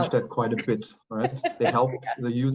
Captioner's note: laughing